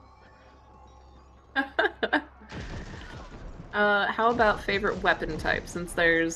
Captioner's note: laughs